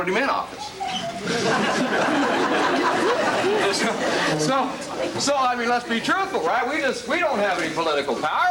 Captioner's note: crowd laughs